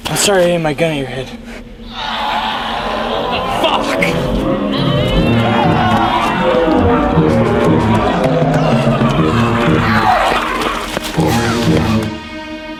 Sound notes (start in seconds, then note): 1.9 distant growling; 5.2 all growling